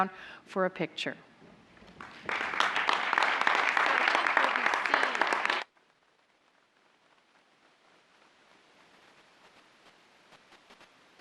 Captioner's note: applause